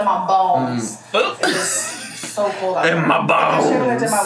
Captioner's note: laughs